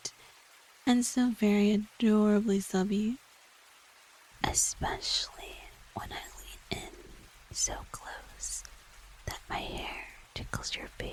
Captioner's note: whispering